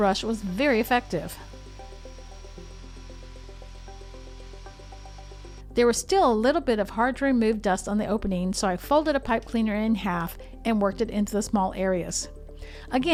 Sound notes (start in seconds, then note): 1.9 vacuum whirring